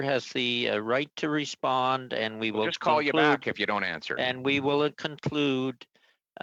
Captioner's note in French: voix de l'interprète